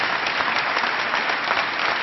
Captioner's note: applause